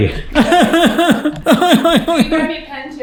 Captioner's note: cry-laughs loudly